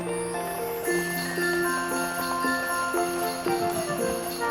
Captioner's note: sleigh bells